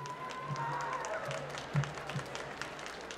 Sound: applause

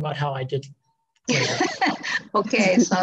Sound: laughing

